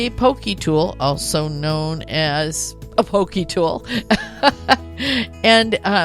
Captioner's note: chuckles